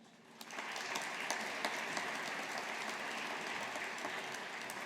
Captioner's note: audience applauding